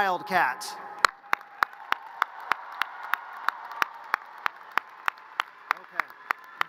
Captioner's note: audience cheers and applause